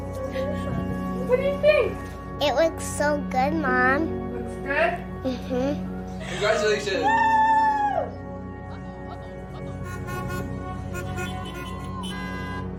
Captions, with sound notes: What do you think? It looks so good, Mom. Looks good? Mmhmm. Congratulations Wooo! [car horns honking]